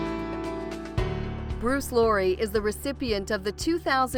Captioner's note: mellow music; voiceover